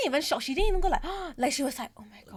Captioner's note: gasp